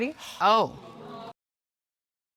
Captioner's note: audience exclaiming